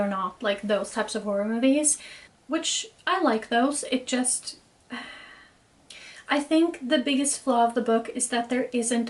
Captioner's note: sighs